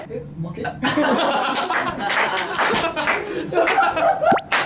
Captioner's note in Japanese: 爆笑